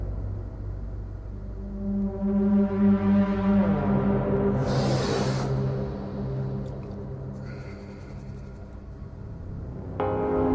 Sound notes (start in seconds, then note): 4.7 Ian sniffs